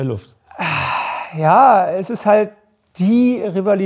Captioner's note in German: seufzt